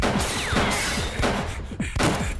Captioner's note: panting